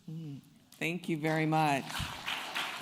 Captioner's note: applause